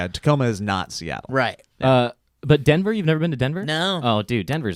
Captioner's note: none